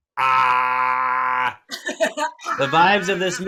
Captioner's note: screams